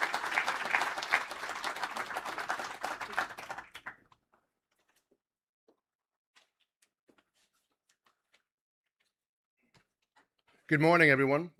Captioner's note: applause